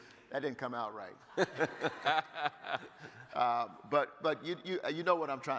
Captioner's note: laughing